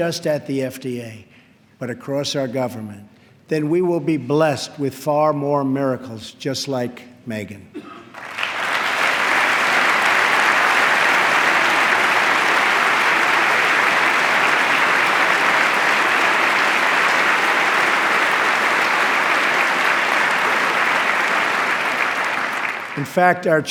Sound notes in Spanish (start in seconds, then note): 8.1 aplauso